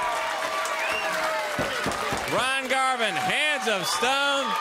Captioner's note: crowd cheering